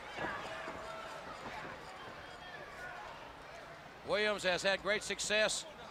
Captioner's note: crowd chatter